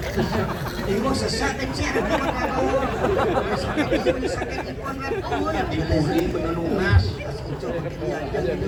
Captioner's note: laughs